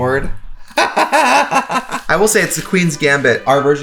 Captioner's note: laughing